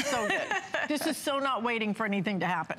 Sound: laughter

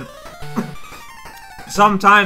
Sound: cough

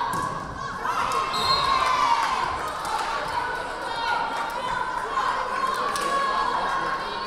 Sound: crowd cheering; whistle blaring

